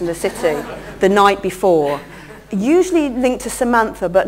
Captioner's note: laugher